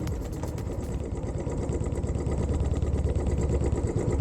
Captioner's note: bike engine